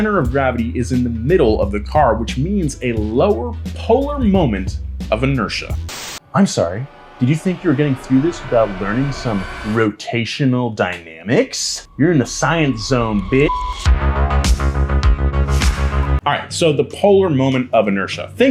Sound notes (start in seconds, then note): 11.9 beep; 13.8 bright upbeat music